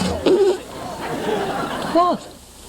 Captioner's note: weak fart